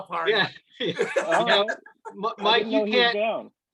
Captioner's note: laughs